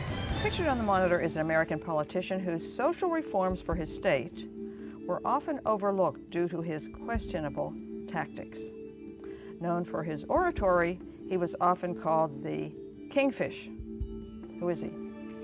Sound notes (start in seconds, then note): none